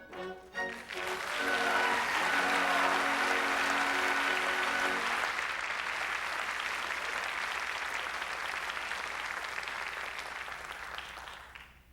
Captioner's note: applause